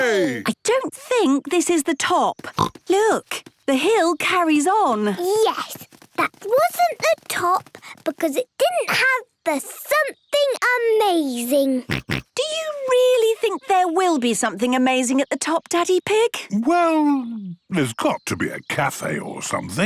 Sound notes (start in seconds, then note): 2.4 snorts; 11.8 snorts